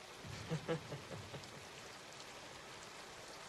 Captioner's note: laughs